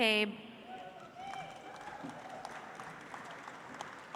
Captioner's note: audience applauds